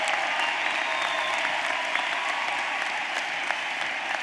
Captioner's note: applause